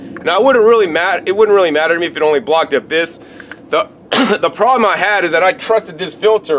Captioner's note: coughs